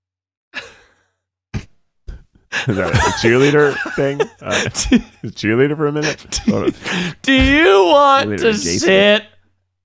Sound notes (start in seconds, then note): 6.0 laughing